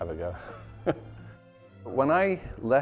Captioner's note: chuckling